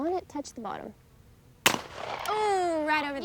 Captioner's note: shotgun banging